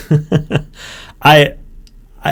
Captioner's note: laughs